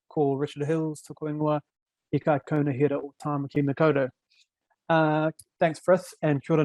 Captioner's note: speaking foreign language